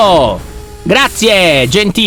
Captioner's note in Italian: suono meccanico